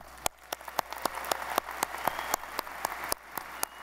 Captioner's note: audience applauding